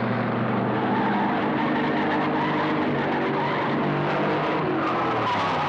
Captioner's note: tires screeching